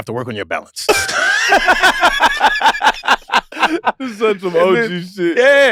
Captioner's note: group laughs